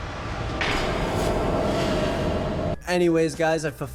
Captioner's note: metal clanging